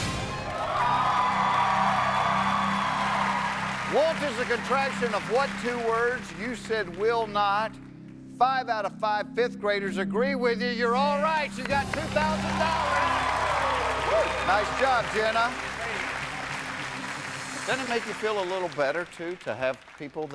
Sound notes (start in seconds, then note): 3.0 cheers and applause